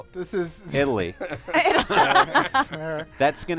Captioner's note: laughter